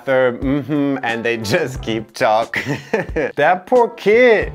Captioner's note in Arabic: يضحك